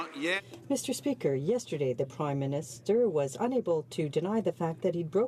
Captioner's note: some Applause